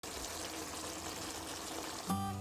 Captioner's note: boiling sound